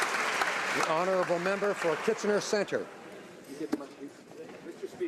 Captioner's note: some Applause